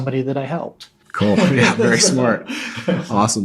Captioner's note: both laughing